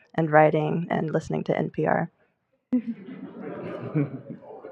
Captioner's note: laughter